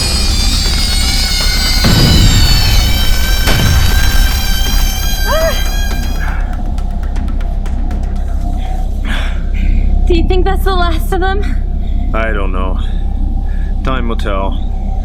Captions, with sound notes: (explosion booming) (eerie shrieking) (Sheila gasping) Do you think that's the last of 'em? - I don't know, time will tell.